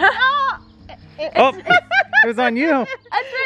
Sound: laughs; exclaims

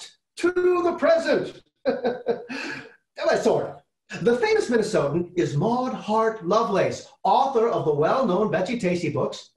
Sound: chuckling

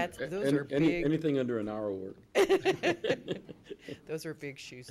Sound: laughing

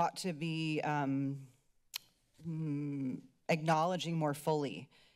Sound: clicks tongue

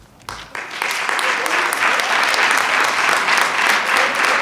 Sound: attendees clapping

